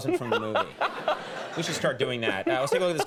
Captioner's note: Patrick laughing